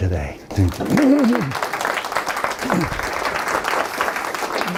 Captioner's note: students clapping